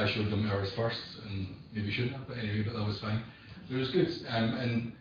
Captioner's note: audio distorts